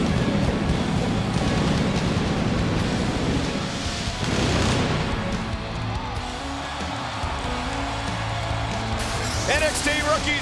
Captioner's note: crowd cheering